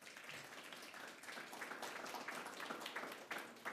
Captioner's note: applause